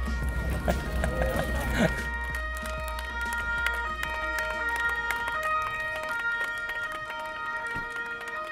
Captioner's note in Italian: suono di sirena in lontananza